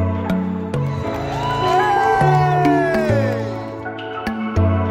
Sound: guests cheering

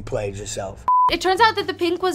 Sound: screen beeping

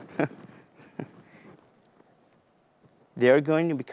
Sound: laughs

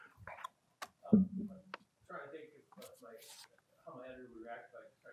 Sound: man speaks softly

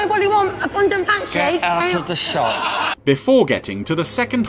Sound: audience laughing

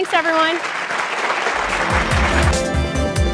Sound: applause

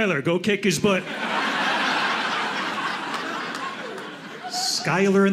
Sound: audience laughing

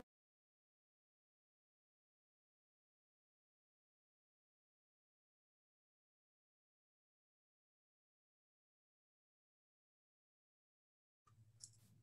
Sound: muted

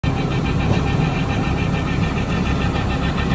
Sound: engine Sound

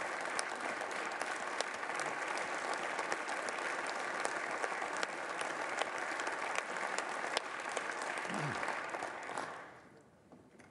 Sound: applause

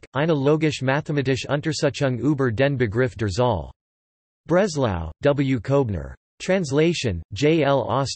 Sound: German

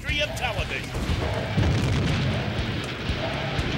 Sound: fire exploding

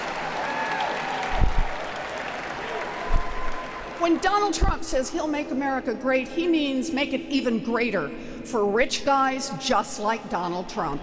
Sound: applause

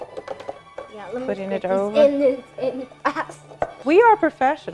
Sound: laughs

